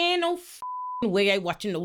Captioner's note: beep